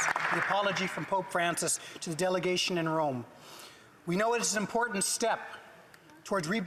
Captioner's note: applause